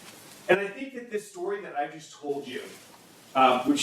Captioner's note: none